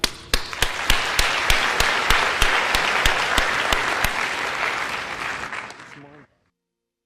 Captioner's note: applause